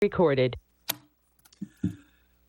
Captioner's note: electronic Voice